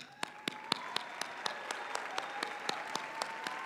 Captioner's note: applause